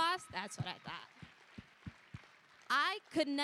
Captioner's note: applause